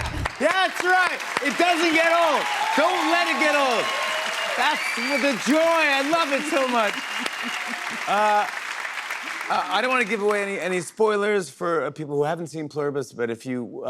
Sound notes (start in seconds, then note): 2.6 cheers and applause; 6.9 applause